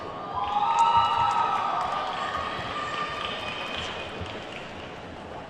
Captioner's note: attendees whooping and clapping